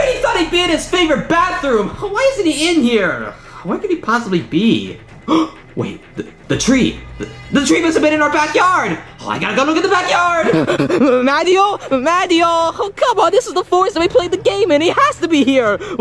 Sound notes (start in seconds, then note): 5.0 Luigi gasping; 10.2 panting